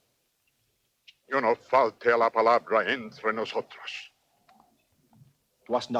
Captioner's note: Victorio speaks Spanish